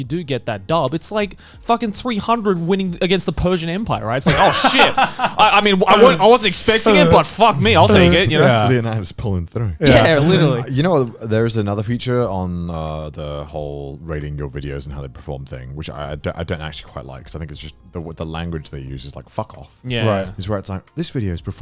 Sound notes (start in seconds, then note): 4.2 Garnt laughing